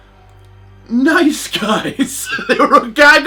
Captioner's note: laughs